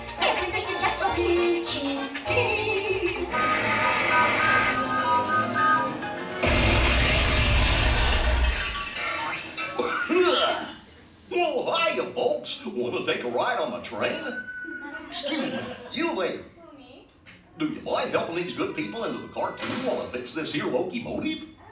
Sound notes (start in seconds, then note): 4.0 whistle sounding; 6.4 boom; 9.6 coughs